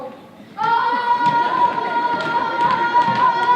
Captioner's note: yelling